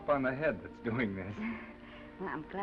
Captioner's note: Esther laughs